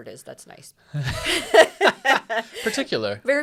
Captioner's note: both laughing